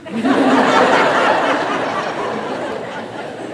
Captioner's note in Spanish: Risas